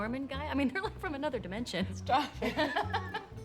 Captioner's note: laughs